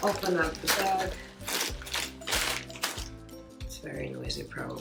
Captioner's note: bag rustling